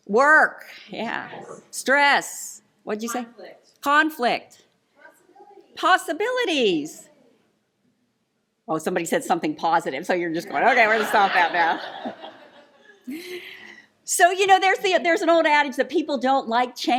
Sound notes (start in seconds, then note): 12.2 laughter